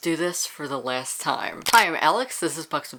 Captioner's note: camera Shutter